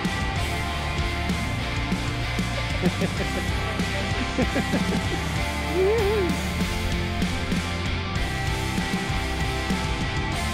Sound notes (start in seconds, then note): 2.1 laughing